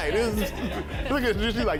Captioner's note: laughing